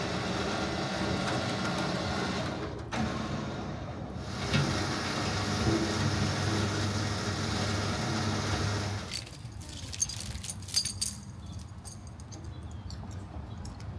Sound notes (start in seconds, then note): 9.0 chain clinking